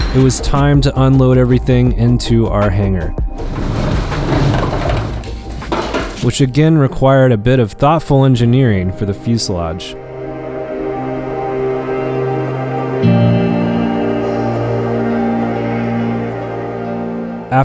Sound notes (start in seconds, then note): 0.0 shutters opening; 3.3 shifting; 11.0 relaxing music